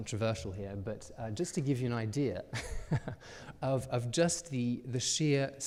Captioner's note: chuckles